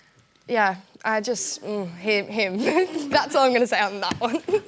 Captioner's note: laughs